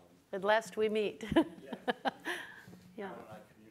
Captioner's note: chuckles